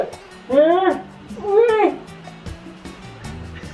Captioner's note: grunting